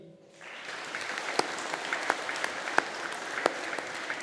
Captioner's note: audience applauding